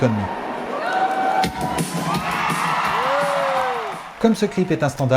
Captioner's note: screams